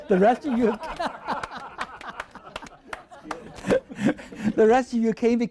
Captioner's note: laughing